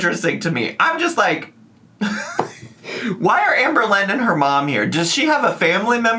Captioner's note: laughs